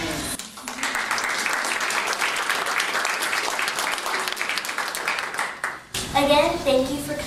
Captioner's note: applause